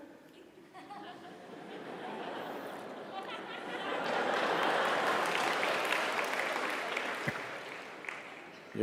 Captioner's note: Laughter/Applause